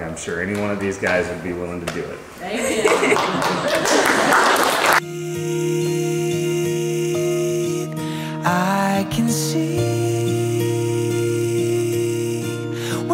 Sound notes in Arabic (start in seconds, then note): 2.5 الضيوف يضحكون ويصفقون; 4.8 موسيقى صوتية لطيفة